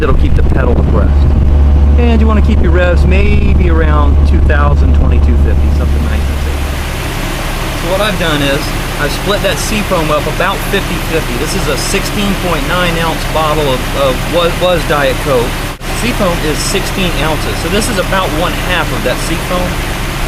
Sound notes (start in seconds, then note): 10.7 sound of motor running